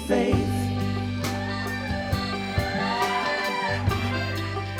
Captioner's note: crowd cheers